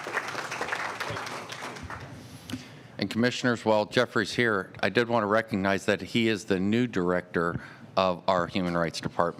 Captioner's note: applause